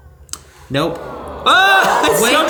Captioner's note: crowd laughing; crowd sighing